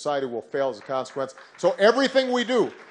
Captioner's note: applause